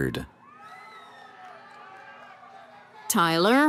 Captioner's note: cheering